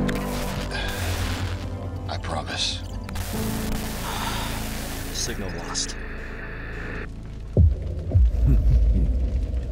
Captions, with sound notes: *radio static* I promise. *severe radio static* Signal lost. *Toro chuckling*